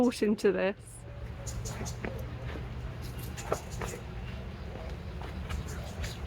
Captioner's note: footsteps and birdsong